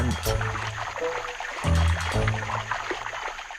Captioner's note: water rustling